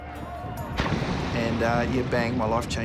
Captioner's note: splash!